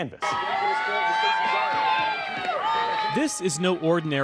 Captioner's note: cheering